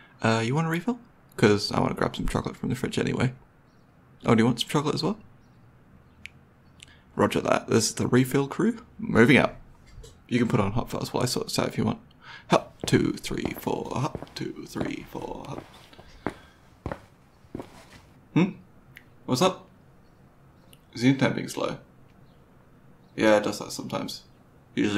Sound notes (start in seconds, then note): 12.5 footsteps